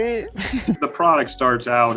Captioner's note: laughs